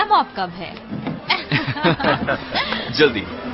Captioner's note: all laughing